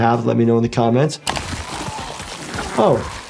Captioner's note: body tearing